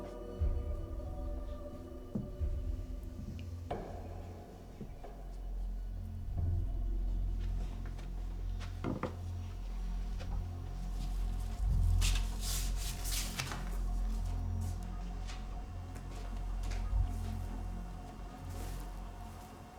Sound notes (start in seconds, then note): 1.6 pensive music continues; 7.6 footsteps plodding; 12.2 feet shuffling; 12.2 pensive music continues